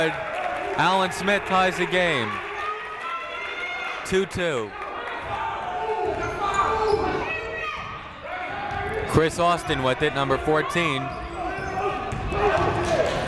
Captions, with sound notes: Alan Smith ties the game. Two-two. (shouting) Chris Austin with it, number 14.